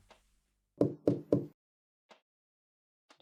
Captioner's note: knocking on door